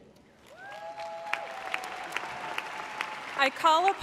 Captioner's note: audience applauding